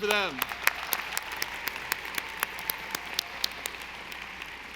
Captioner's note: audience applauding